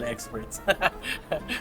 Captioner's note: laughs